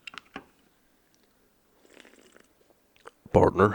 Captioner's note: sip